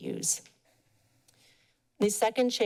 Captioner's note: pause